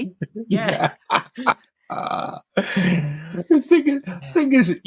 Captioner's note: laughing